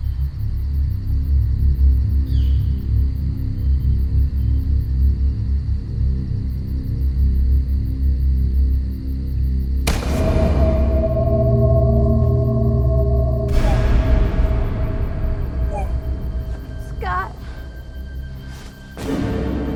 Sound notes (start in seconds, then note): 2.2 ominous music; 9.9 startling music; 15.4 Scott heaves